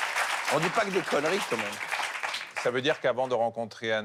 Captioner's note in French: applaudissements